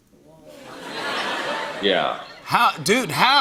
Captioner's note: laughter